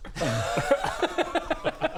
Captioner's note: cheeky laughter